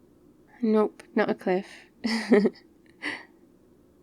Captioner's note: laughs